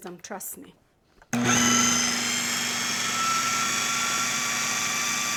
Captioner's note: food processor whirring